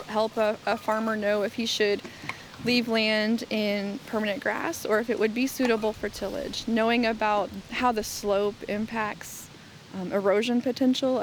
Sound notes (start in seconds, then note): none